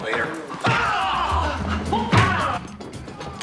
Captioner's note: grunting